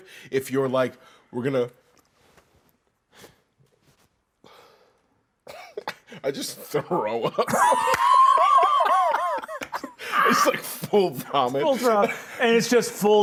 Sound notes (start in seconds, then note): 7.2 both laughing